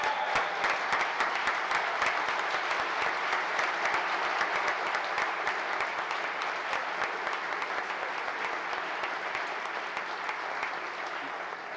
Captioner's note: applause